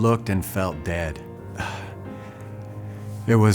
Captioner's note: sighs heavily